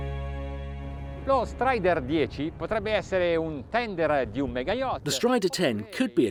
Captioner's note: foreign language